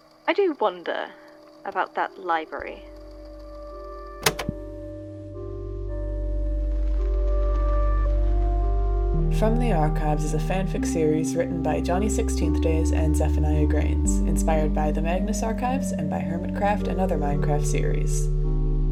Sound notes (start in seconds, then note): 4.2 click